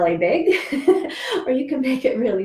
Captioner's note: laughs